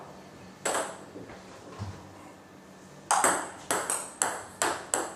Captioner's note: balls ping pong hitting continues